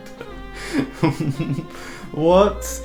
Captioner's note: chuckling